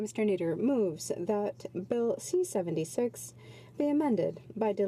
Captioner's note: speaking French